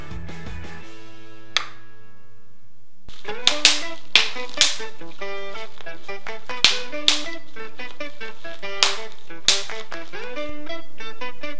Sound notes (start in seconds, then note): 3.4 upbeat instrumental music; 4.8 plastic popping